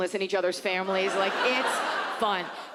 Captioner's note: audience laughs